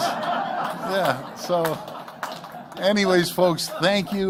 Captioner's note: laughter